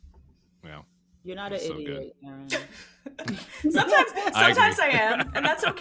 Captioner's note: all laughing